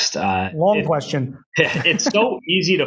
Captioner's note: laughs